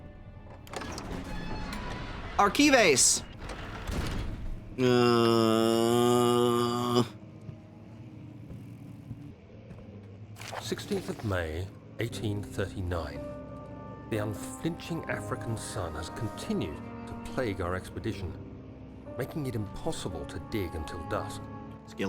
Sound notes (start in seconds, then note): 4.7 groans